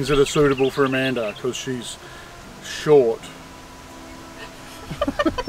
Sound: laughs

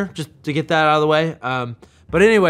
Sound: none

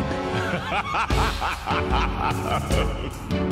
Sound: maniacal laughter

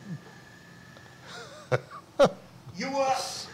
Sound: laughs

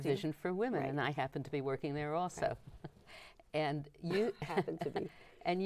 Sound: chuckling

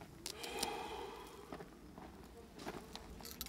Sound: sighs

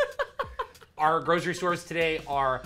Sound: laughs

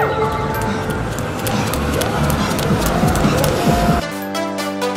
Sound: running footsteps; upbeat music

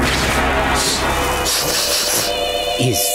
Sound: sniffing

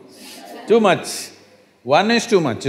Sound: laughter

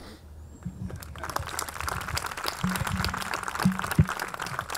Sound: audience clapping

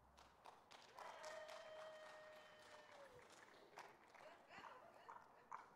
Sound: audience clapping

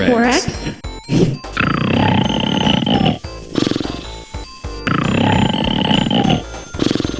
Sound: snoring

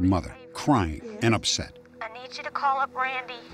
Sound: on phone

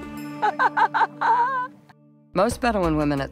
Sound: laughing

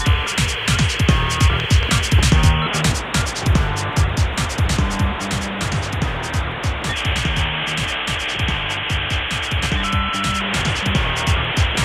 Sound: modem connecting; television static; modem connecting

